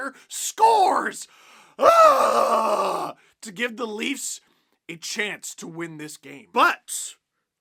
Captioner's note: aggravated sigh of relief